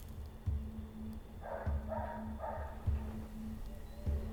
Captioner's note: A dog barking in the distance